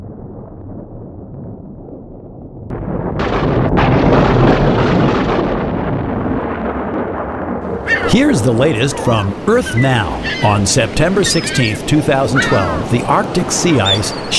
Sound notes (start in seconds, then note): 3.7 rumbles of thunder; 6.2 loud thunder